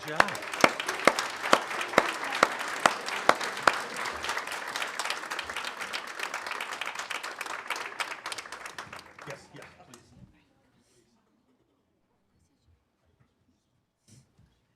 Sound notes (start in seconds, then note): 4.2 applause